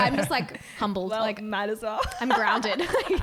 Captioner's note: voice muffled